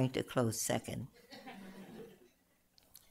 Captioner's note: laughter